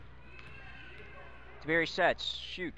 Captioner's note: crowd talking